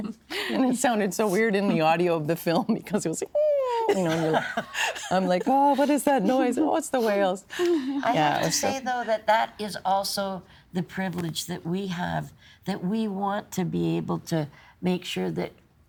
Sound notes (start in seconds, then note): 3.3 laughing; 3.5 moaning